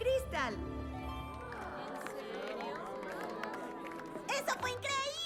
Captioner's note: light applause and murmurs